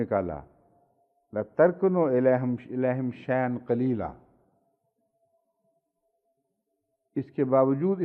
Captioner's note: Arabic